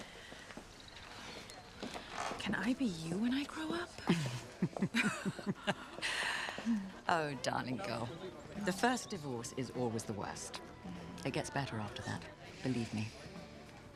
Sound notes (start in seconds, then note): 0.0 Kate sighs; 4.0 Margaret laughs